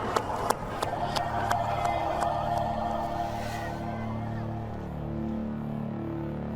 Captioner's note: Sound of the Castigator